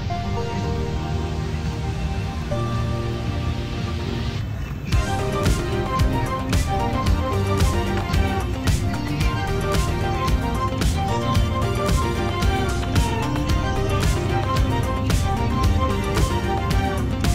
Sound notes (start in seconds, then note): 2.6 cars engine roaring; 9.5 upbeat music continues